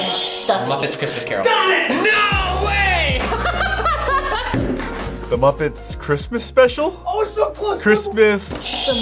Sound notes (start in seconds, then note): 0.0 buzzer rings; 3.1 laughs